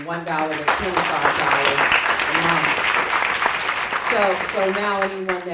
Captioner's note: audience applauding